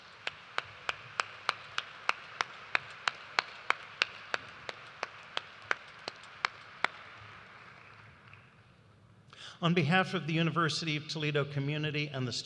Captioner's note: applause